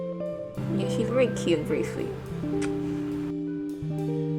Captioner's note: smooch